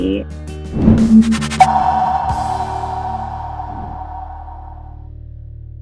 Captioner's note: graphic whooshing and pinging